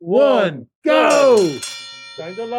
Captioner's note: bell ringing